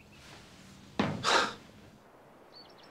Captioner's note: sighs